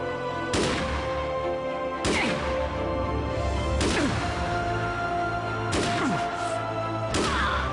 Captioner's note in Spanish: Disparos; Quejidos; Música intensamente dramática